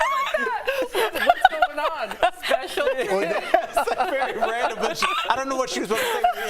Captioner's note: laughter